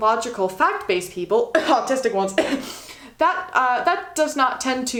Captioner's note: cough cough